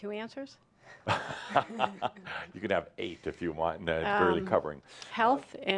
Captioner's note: chuckling